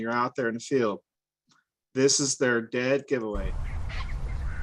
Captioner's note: snipe sound